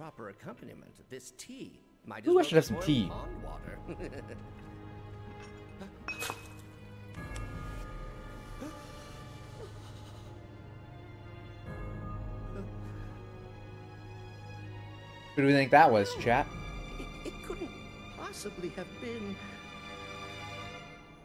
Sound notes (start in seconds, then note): 3.5 laughs